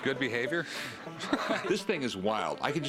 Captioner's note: laughs